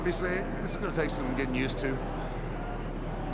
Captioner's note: none